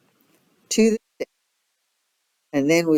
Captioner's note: audio distorts